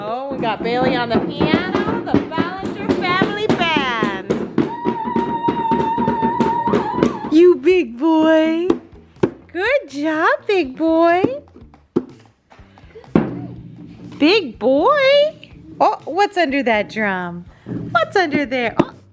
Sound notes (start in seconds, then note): 4.8 screams